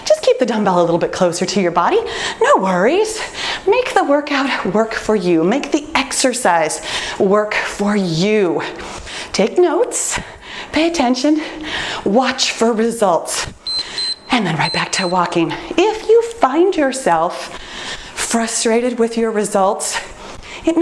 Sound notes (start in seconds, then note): 13.6 timer beeps